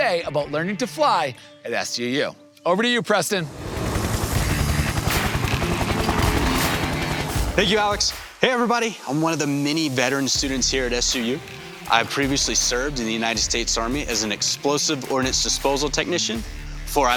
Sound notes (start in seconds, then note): 3.4 helicopter engine roaring; 4.0 upbeat music